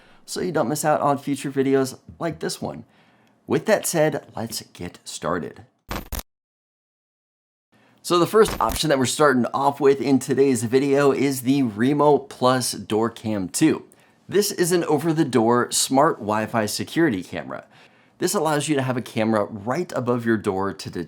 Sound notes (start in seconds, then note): 6.3 static crackling